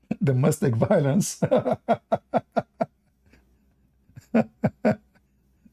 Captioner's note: Ketawa